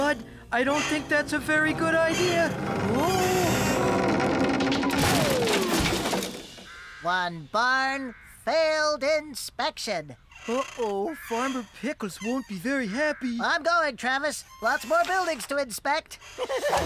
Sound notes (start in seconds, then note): 4.4 wood Creaking; 4.6 crash!